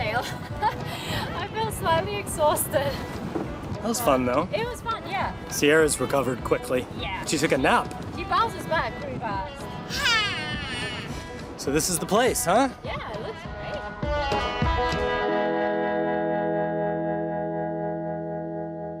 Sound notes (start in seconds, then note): 10.1 sighing; 14.3 upbeat music continues